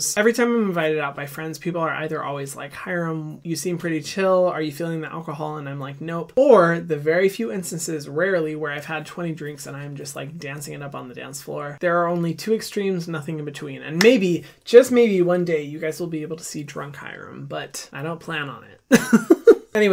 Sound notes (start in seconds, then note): 14.4 clapping; 18.9 laughing